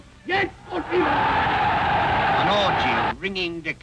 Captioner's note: crowd cheering